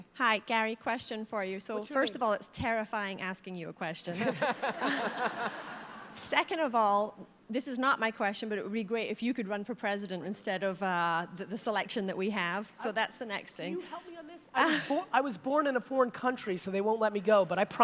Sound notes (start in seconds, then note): 4.2 audience laughter